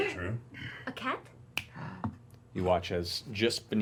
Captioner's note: snaps